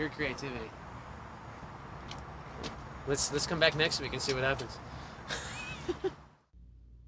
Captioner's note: laughs